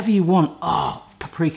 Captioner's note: grunts